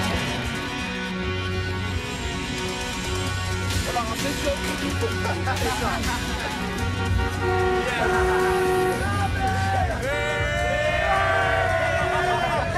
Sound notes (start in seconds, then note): 6.2 car horns honking; 11.8 laughing